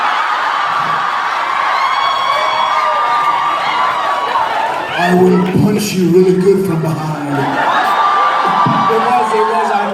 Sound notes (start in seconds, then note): 0.1 audience cheering; 8.0 audience cheering